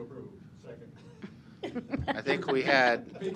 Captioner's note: laughter